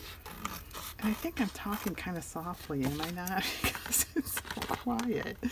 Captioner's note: laughs